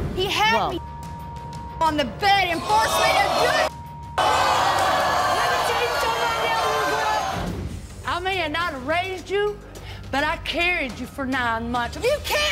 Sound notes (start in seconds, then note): 5.5 audience gasps